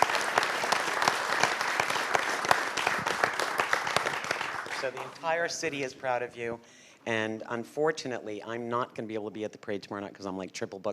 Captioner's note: applause